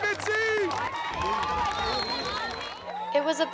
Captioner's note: all cheering